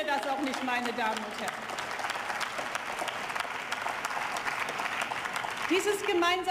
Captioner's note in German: Beifall